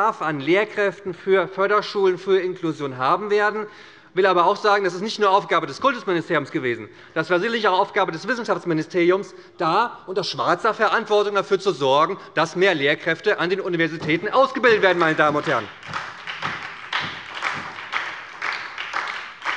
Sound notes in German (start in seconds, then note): 14.5 Beifall bei der SPD